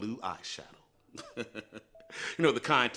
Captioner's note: chuckles